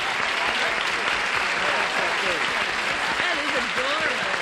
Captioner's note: applause